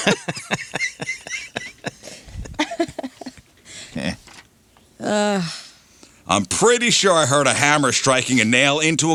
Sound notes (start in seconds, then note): 1.7 laughter